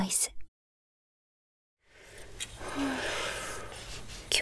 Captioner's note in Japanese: ため息